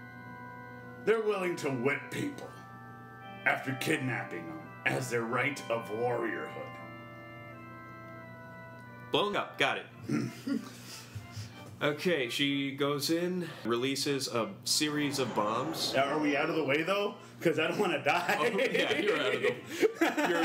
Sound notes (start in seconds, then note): 10.0 satisfied grunt; 18.2 laughs